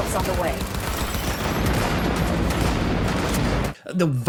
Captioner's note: gunfire banging